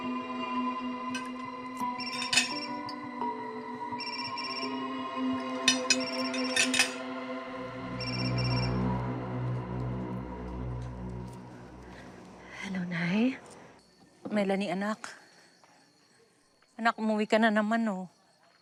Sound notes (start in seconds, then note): 1.9 phone ringing